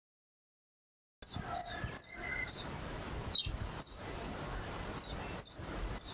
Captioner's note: birds chirping